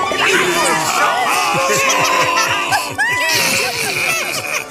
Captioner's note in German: alle lachen fröhlich